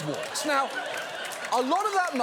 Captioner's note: audience laughs